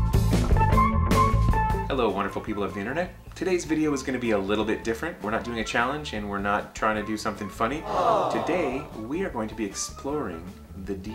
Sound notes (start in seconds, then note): 7.8 crowd